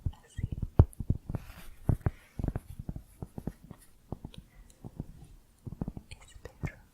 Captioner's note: tapping on cork